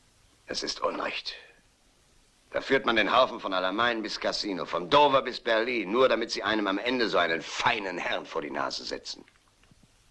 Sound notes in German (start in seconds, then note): none